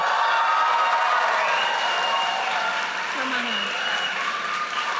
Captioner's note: audience cheers and applauds